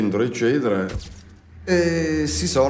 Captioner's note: camera snapping; speaks in foreign language